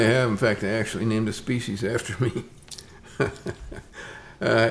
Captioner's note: chuckles